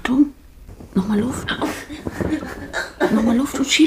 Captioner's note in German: Schmerzerfülltes Stöhnen